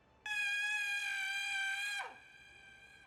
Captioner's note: screams